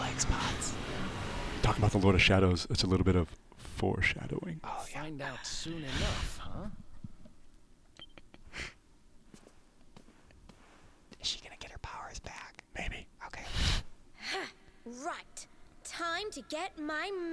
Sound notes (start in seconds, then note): 0.4 whispering; 11.8 whispering